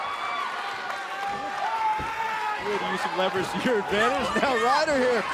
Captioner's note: cheers and applause